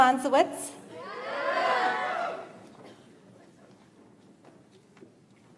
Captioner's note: audience applauds